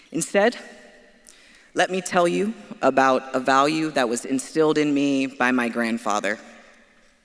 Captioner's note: none